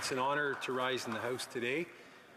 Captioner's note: some Applause